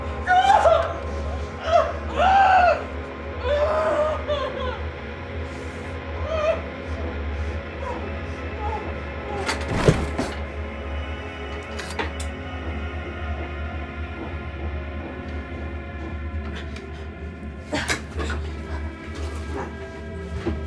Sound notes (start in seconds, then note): 0.0 Ben sobs; 0.0 tense music; 0.3 Claire screaming; 0.3 tense music; 9.5 knives clattering; 10.7 tense music; 17.2 Lucy grunts; 18.1 tense music